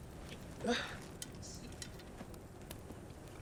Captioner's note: Clive grunting